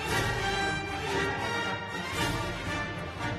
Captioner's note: applause